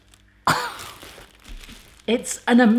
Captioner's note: scoffs